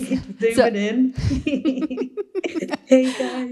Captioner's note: all laughing